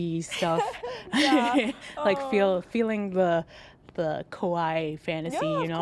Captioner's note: laughs